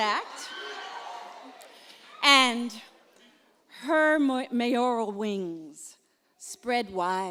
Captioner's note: applause